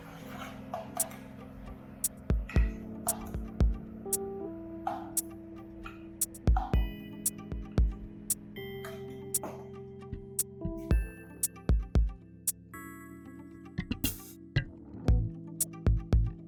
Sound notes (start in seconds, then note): 0.8 kitchen ambience